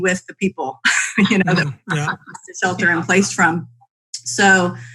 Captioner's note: laughs